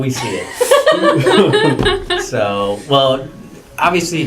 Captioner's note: laugh